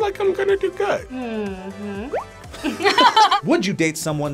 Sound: both laugh

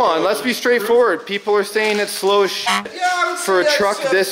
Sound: beep

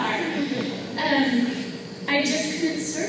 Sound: laughter

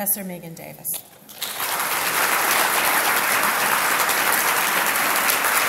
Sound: audience applauds

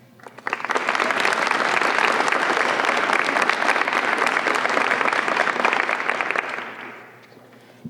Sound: applause

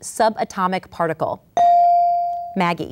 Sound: ding

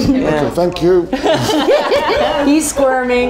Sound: women laughing

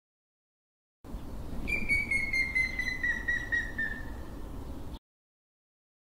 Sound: sound of gray woodpecker

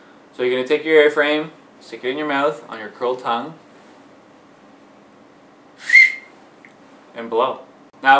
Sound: whistle

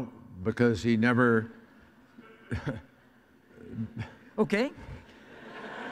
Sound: audience laughs; laughs

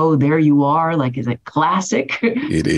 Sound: laughs

